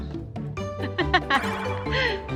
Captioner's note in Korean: 웃음